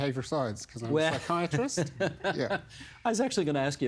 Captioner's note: laughing